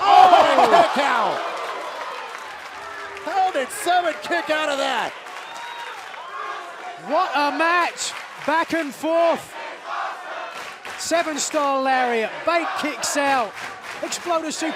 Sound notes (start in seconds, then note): 10.2 fans chanting